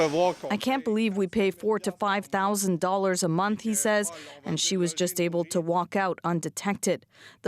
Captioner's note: speaking French